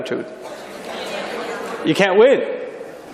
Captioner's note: people shouting